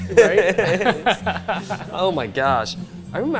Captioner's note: laughter